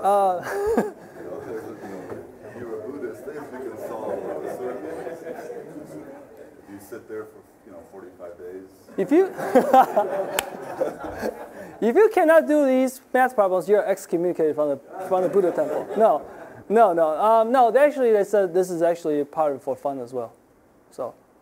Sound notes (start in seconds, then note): 1.4 laughing; 1.9 audience laughing; 4.9 general chatter; 9.0 audience laughing; 14.9 audience laughing